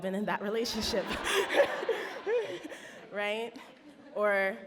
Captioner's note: audience laughs